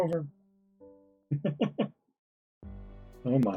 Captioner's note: chuckles